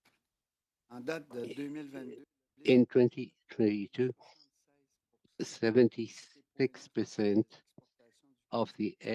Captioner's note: speaking French